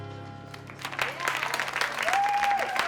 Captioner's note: clapping and cheering